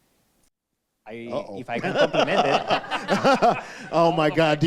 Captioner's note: laughing